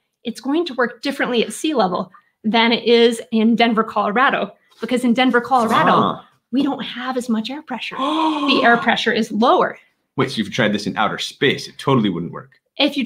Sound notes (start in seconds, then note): 7.9 gasps